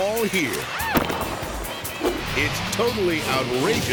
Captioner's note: skater screams; skater thuds